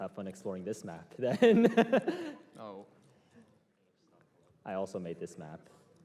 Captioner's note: laughs